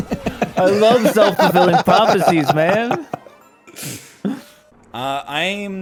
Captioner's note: laughs